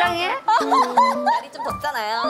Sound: haha

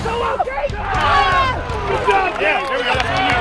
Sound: coaches cheer

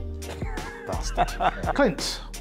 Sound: laughing

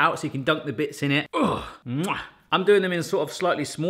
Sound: kissing

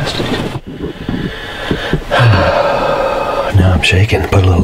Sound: sigh

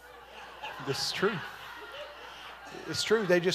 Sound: congregation laughing

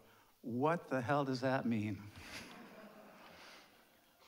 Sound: chuckles; audience laughs

